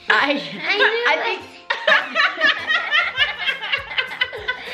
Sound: laughs

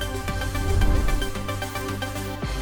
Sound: bright upbeat music continues; air whooshing; bright upbeat music fades out

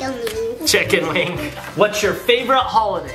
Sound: laughs

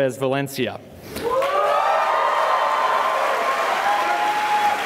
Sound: cheering and applause

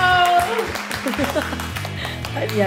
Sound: applaud, applaud

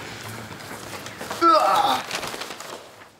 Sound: groans

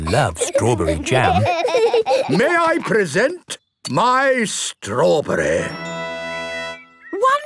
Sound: laughing

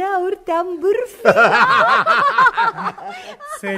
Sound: everyone laughs

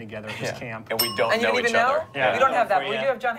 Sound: bell dings

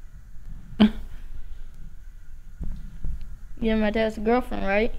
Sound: Leanna chuckles

